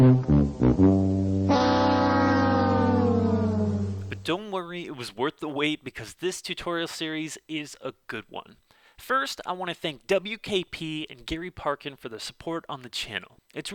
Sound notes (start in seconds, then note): 0.0 fail Noise